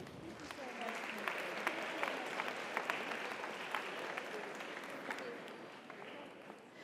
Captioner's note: audience applauds; audience cheers